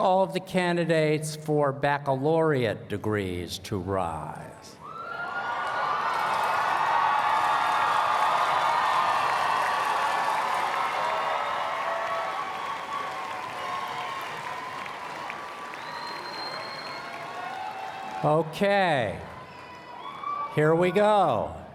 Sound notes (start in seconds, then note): 5.3 cheers and Applause